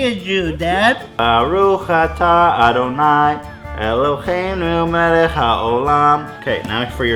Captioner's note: hebrew prayer